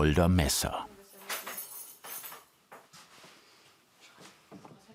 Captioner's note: soft conversation, jingling